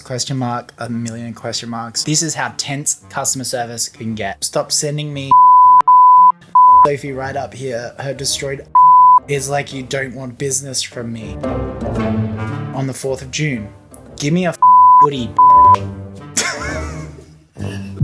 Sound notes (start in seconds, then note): 5.3 beep; 8.7 beep; 11.2 dramatic music; 14.6 beep; 16.3 host laughing